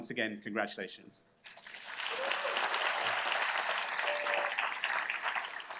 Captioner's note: applause